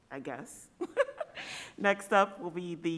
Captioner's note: laughing